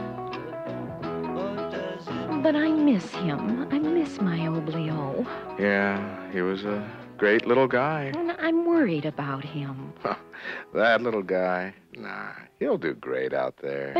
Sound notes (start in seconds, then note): 9.7 scoffs